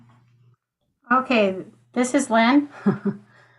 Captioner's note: chuckles